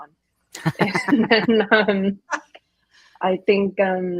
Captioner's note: everyone laughing